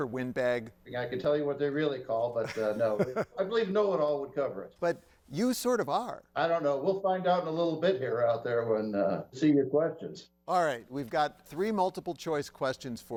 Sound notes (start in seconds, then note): 2.4 laughs